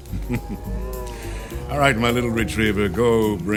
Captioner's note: laughs evilly